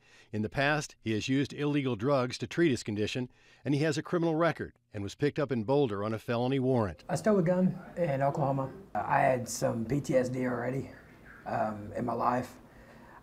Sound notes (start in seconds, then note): none